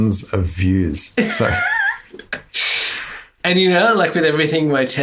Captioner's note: laughs